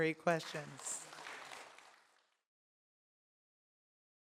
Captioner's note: applause